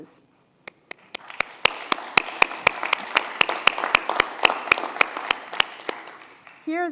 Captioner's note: applause